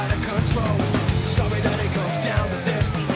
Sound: siren wails

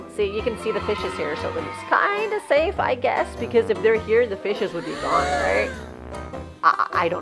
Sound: cheering; gasps

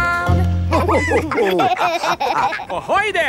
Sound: all laughing

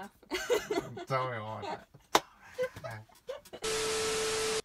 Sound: laughs; whispers; laughs harder

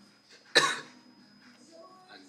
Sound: cough

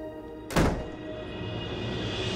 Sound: door closes

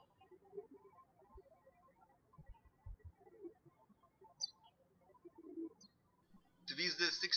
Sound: birds chirping

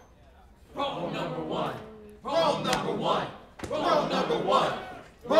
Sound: crowd, chanting

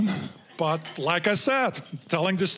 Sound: audience laughing

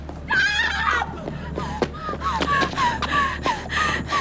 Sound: panting

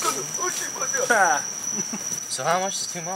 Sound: Dwight chuckling

